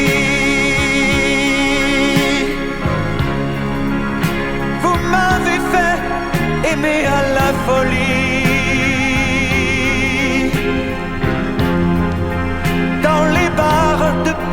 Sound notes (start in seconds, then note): 5.8 the call of the horn